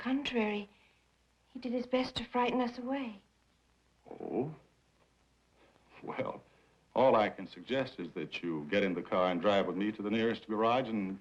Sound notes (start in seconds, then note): none